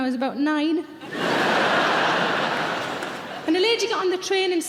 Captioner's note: audience laughs